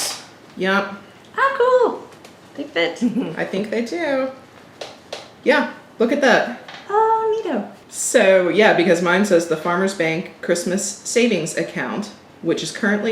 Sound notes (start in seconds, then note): 3.0 chuckles